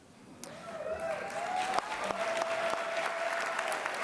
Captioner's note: applause